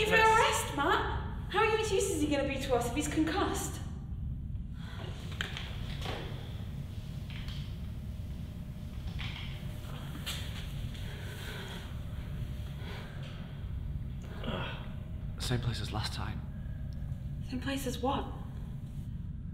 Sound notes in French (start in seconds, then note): 14.4 Connor gémit de douleur